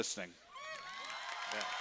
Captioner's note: cheering